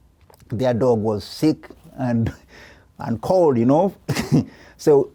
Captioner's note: chuckles